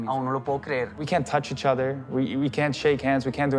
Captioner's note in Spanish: hablando en inglés